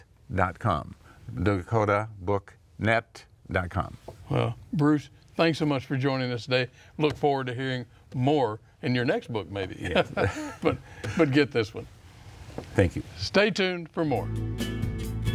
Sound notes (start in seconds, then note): 9.8 chuckle